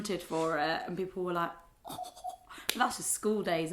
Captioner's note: chuckles